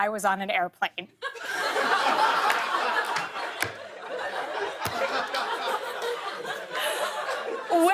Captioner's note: laughter